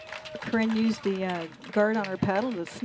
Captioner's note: applause